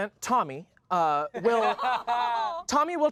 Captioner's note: coos; laughs